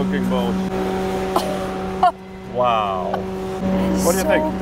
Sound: laughs

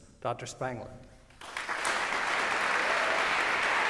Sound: applause

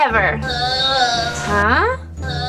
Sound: moaning

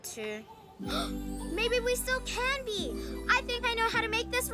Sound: gasps

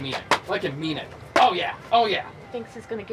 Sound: slaps

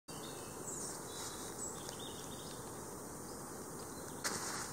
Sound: birds chirping

